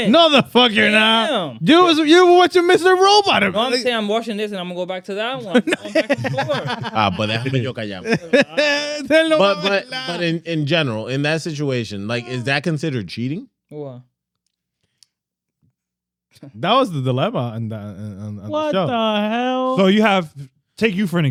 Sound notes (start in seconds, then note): 5.4 laughing; 6.7 speaking Foreign Language